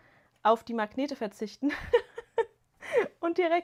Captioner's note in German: gelächter